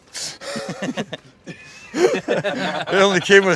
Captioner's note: everyone laughing